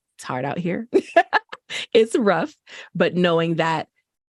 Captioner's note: laughter